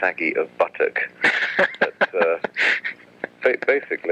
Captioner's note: laughs